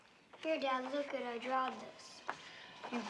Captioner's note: none